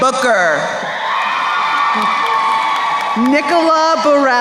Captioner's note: crowd cheering